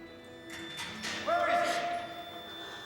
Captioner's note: metal clangs, Moon gasps